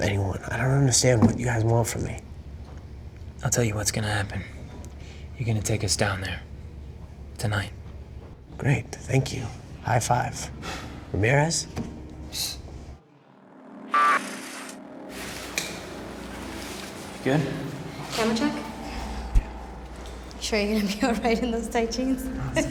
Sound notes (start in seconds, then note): 11.7 scoffs